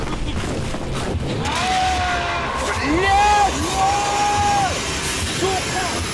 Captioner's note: screams Russian